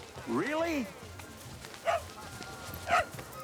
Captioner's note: barking